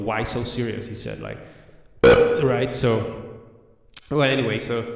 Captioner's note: burp